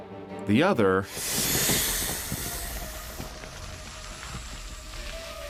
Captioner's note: snake hissing